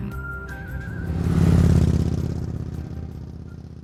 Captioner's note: motorbike roaring